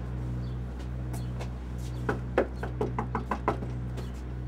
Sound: door knocking

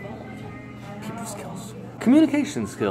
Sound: whispers

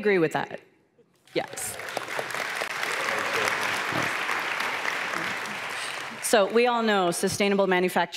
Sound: cheers

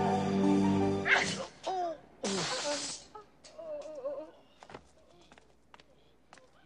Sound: groaning; hitting

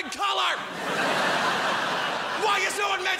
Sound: crowd laughs

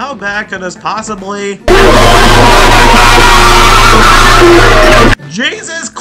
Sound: Horrorboros shrieking at the top of his lungs

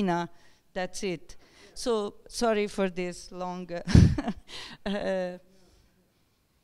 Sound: laughs

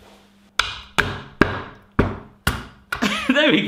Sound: loud banging

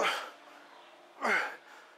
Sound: grunt

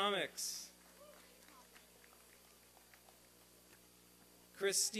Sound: applause and cheering

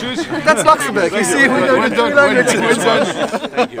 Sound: Rires

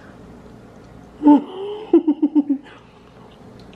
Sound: giggles

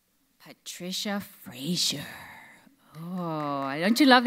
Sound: audience applauds

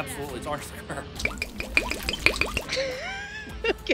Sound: Cointreau dribbling; laughing

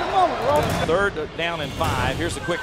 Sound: voiceover

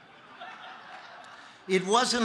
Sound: congregation laughing

